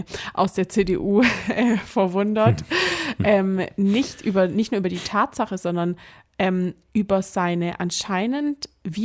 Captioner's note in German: gelächter